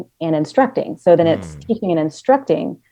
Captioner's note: hums